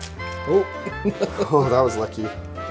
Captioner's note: laughter